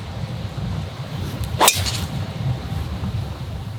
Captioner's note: none